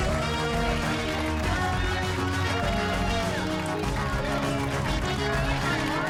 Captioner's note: cheers and applause